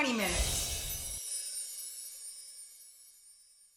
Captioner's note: sparkly chime